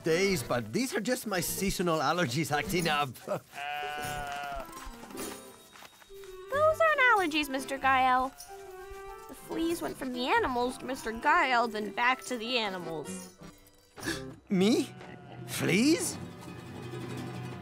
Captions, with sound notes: But these are just my seasonal allergies acting up. [laughs] [bleating] Those aren't allergies, Mr. Gael. The fleas went from the animals to Mr. Gael, then back to the animals. [gasp] Me? Fleas?